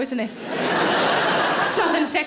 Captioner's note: audience laughing